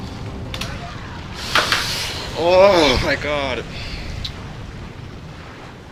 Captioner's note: inhales